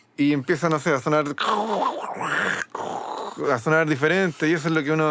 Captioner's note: imitates the sound